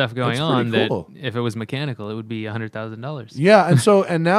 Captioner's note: laughter